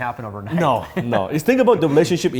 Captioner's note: laughs